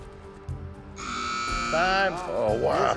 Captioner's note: buzzer sounds